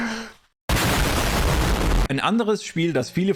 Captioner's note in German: Explosion